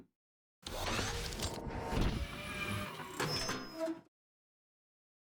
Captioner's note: robot machine sounds